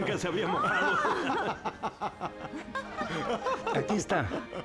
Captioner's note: laughter